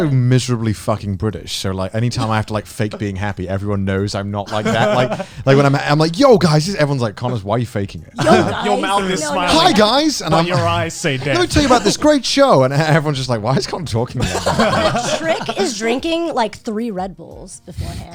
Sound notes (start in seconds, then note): 4.4 guys laughing; 10.1 cheerily; 14.1 guys laughing